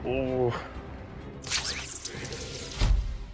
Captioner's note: thwip; thud